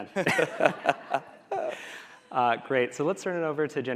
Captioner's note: laughing